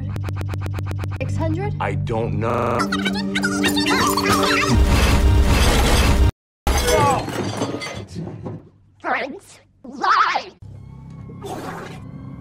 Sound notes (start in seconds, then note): 6.8 moans